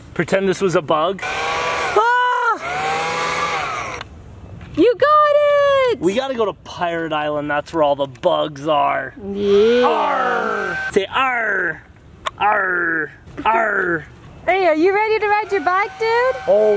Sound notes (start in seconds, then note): 1.2 yells; 2.3 vacuum whirring